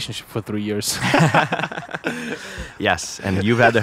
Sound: both laughing

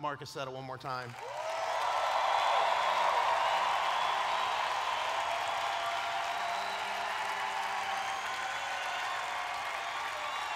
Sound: cheering

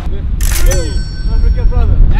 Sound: bell rings

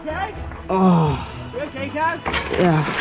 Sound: grunts

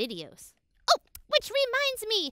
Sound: exclaims

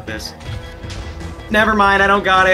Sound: explosions

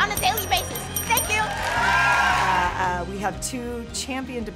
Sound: cheers

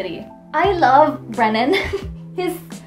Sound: giggles

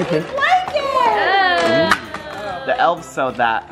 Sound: murmuring

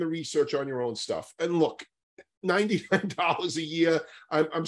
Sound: laughs

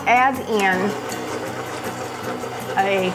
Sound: machine rumbling

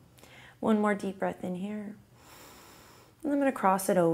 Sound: exhales; inhales

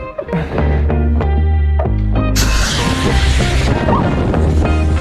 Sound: paddle board deflating

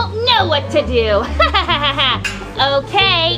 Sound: laughing

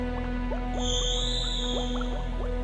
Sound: shrieking

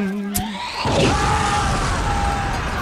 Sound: humming; screaming; boom

